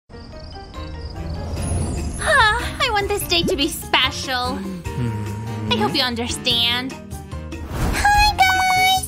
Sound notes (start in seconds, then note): 4.6 sighs